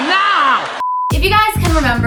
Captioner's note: beep